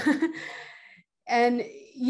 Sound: chuckles

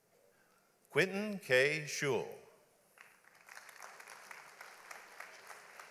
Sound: audience applauds

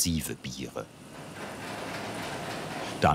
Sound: engine whirring, rattling

